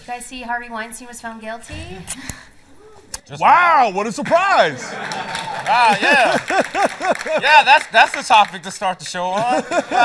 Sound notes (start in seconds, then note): 4.8 laughter; 5.0 cheering